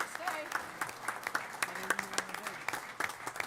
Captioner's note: applause